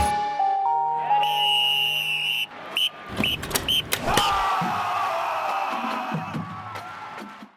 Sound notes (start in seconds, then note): 0.0 chiming; 1.1 whistle blowing; 4.2 cheering; 5.0 marching band playing